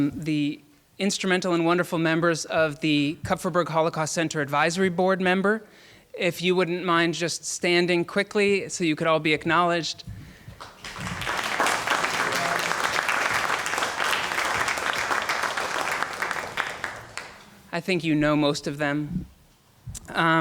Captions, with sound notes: the instrumental and wonderful members of the Kupferberg Holocaust Center Advisory Board Member. If you wouldn't mind just standing quickly, so you could all be acknowledged. (applauding) I think you know most of them